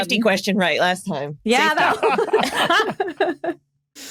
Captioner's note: group laughing